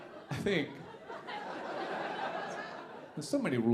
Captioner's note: audience laughing